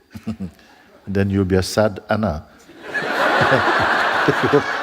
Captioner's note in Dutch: gelach